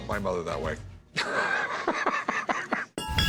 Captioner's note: laugh